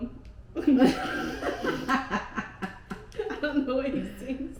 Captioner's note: laughing